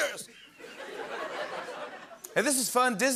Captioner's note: laughter